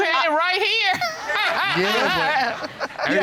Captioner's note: chuckling